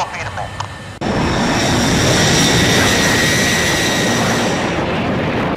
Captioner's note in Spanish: sonido de aviones